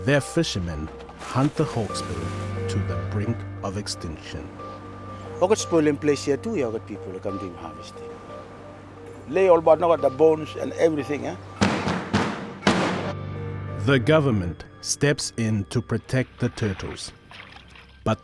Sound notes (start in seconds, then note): 11.6 table bangs